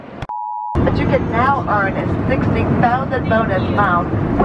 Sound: beeps; chattering

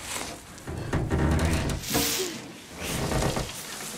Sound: creaking

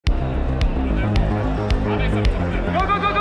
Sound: crowd stirring

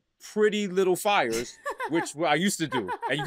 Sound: laughs

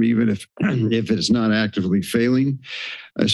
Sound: clears throat

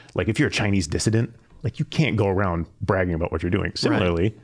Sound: none

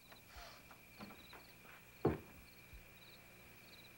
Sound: crickets chirping

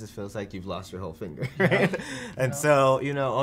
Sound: laughs

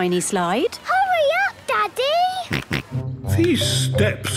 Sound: George snorts

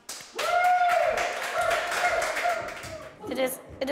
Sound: applause and Cheering

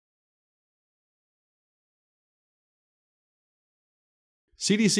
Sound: silence

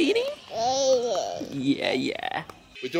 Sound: makes baby noises

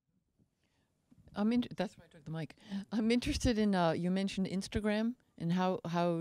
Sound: voiceover

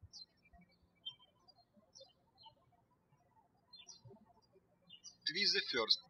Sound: birds chirping

